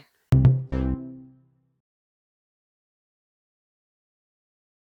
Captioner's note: rhythmic beating